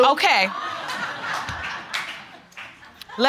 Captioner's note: audience laughing